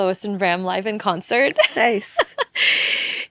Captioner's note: laughs